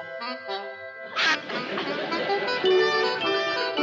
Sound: duck quacks

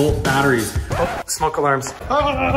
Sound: record scratch

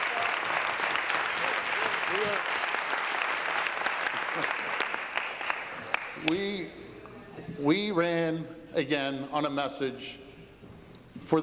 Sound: applause

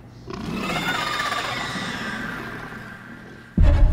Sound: creature trilling

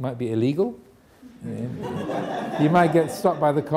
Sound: audience laughing

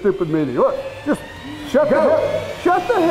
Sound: voiceover

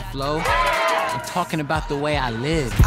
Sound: cheering

